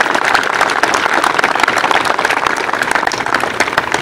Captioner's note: applause